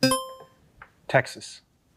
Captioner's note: buzzer ringing